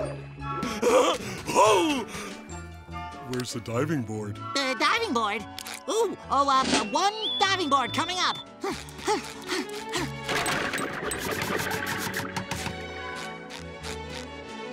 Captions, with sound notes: [chuckles] Oh! Where's the diving board? The diving board? Ooh, oh, ah, one diving board, coming up. [panting]